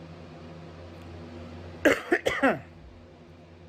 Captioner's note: coughs